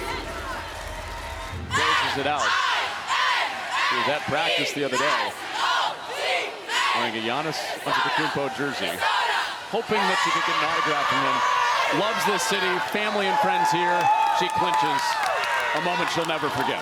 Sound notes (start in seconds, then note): 0.0 audience reacts